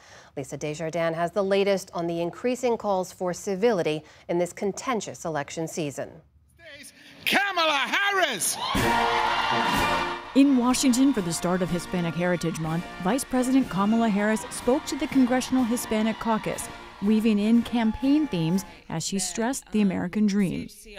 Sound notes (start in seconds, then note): 10.3 applause; 10.3 cheering